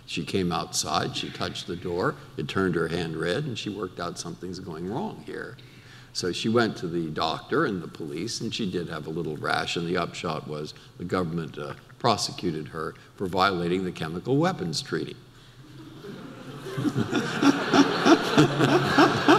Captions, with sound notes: She came outside, she touched the door, it turned her hand red and she worked out something's going wrong here. So she went to the doctor and the police, and she did have a little rash, and the upshot was the government prosecuted her for violating the Chemical Weapons Treaty. (audience laughter)